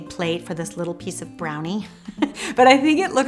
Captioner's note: laughs